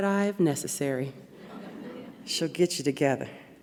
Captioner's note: audience laughs